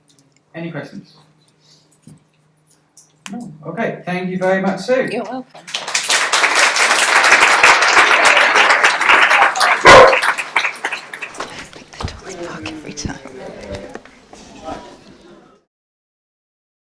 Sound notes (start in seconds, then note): 5.6 applause; 9.8 guide dog barks